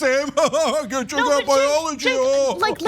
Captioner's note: laugh